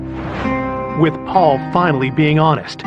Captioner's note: air whoososhing